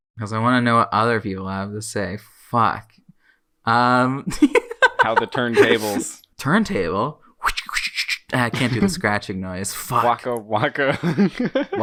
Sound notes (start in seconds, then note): 4.4 laughs; 5.0 imitates turntable; 8.5 laughs